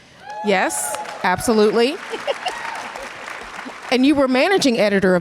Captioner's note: audience cheers and applause